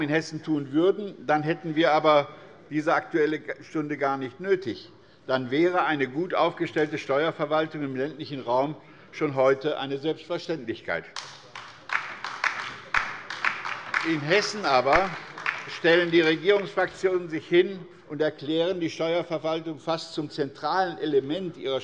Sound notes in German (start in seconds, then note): 11.1 Beifall bei der LINKEN